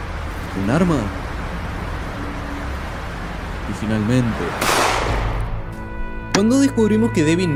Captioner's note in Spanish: disparo